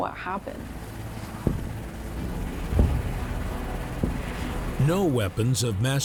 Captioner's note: helicopter motor thrumming; dramatic music